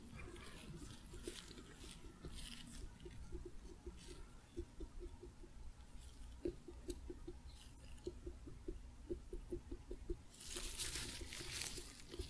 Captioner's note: tapping and glove sounds, getting louder